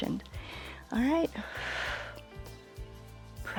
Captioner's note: exhales